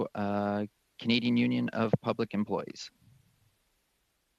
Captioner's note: speaking French